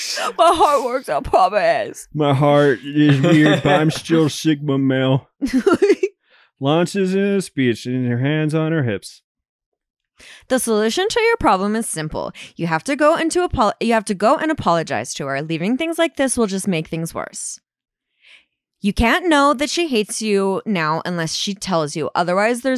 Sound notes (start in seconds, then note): 2.2 laughs